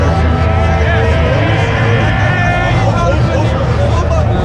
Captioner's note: men cheering